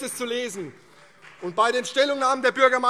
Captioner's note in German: Beifall CDU und BÜNDNIS 90/DIE GRÜNEN